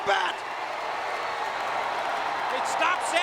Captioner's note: audience cheering